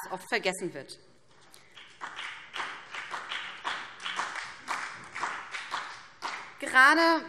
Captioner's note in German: Beifall